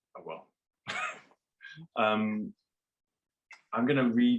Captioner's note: laughs